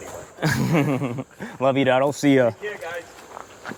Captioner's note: laughs